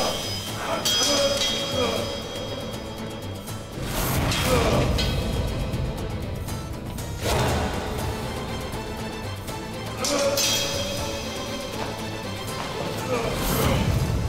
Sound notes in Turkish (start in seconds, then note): 0.0 Dövüş sesleri; 9.8 Dövüş sesleri